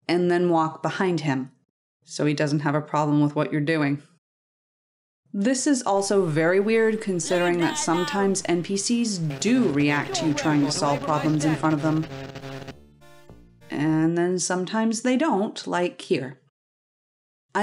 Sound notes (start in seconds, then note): 12.1 buzzing laser; 13.1 tinny MIDI music